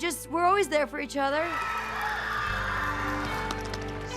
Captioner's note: cheers and applause